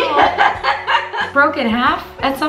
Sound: laughs

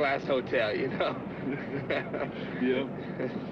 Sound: laughs

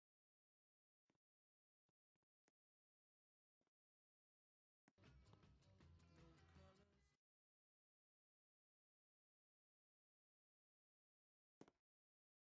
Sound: long pause

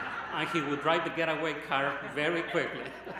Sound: laughter

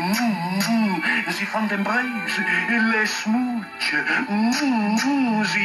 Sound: speaking French

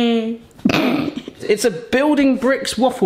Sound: both laughing

